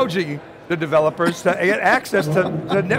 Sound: laughs

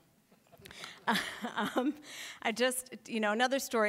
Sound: laughs

